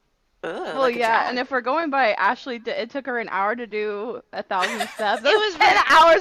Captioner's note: laughter